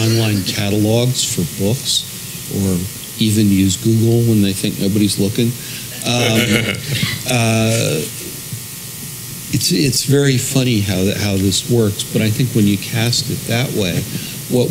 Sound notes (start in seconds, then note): 5.9 laugh